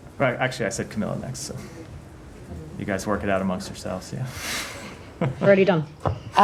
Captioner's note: laughter